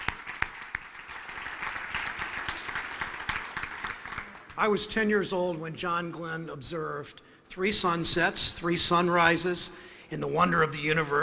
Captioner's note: applause